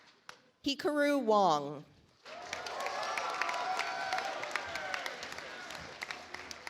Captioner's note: audience applauds